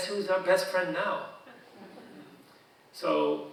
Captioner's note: audience chuckling